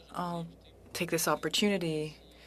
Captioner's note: speaking French